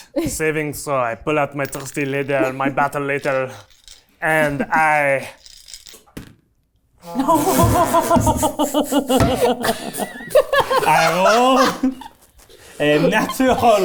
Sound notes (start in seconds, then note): 7.1 everyone laughing